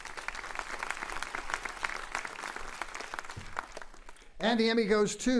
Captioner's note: applauding